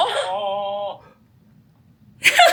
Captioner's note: whaaaaa